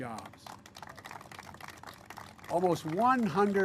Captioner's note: applause